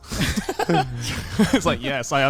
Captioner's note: men laugh